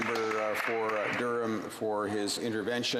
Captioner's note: applause